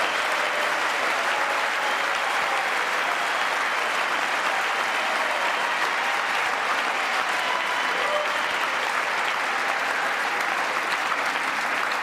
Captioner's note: applause